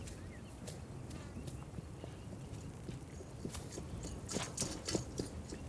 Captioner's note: horse hooves clomping